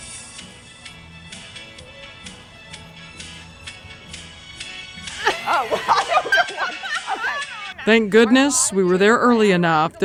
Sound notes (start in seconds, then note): 0.1 upbeat music; 5.1 laughs